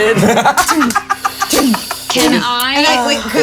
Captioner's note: players laughing